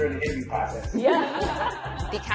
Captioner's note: laughs